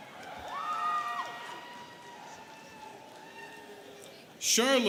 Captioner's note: students cheering